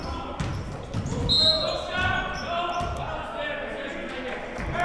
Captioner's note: whistle blows; players murmuring